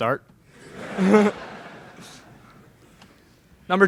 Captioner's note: laughter in crowd